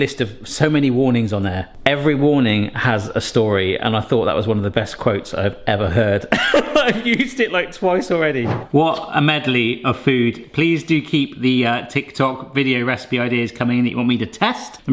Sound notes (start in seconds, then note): 6.4 laughs